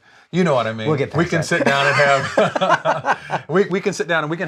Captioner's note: both laugh